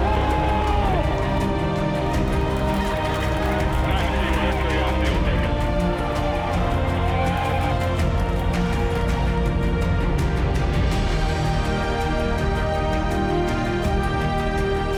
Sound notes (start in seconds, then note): 0.2 cheers; 2.4 clapping; 6.0 cheering and clapping; 10.4 inspirational music